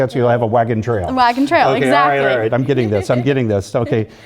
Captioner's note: laugh